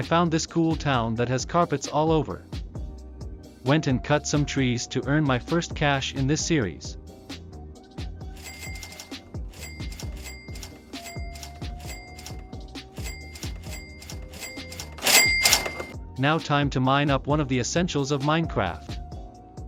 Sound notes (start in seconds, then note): 8.3 cash register sounds